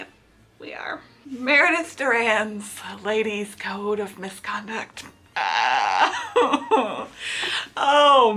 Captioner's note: whimpers